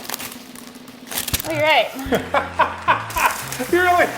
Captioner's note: laughing